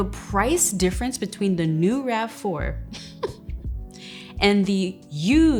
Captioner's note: laughs